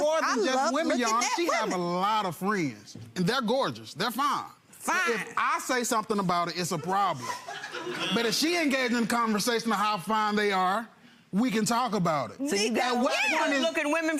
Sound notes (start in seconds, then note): 6.7 audience laughs